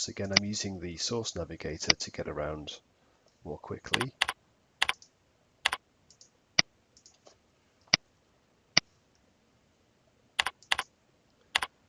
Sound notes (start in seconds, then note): 3.9 mouse clicking